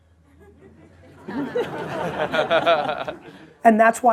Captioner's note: laughter